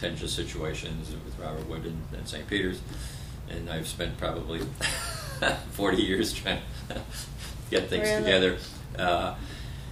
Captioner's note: laughter